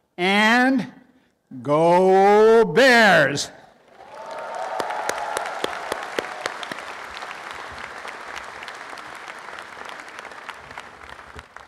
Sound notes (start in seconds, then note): 3.8 applause and cheering; 9.6 applause